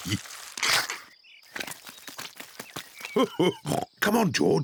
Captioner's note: chuckles; oinks and giggles